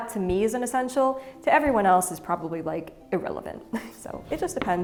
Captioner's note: chuckles